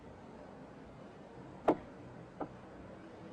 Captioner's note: cup being set down